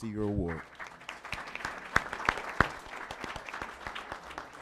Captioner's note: applause